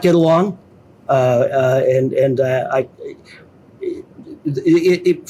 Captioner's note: stammering